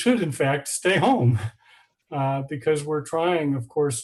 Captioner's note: laughing